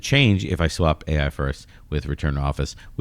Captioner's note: uh